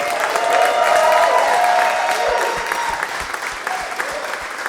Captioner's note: audience applauding